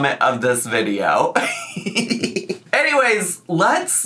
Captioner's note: laughing